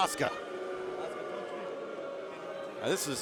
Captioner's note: crowd boos